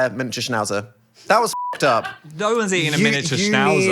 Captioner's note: beep